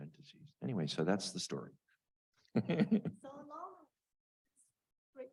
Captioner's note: chuckles